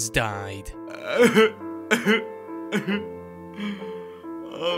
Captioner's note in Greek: κλαιει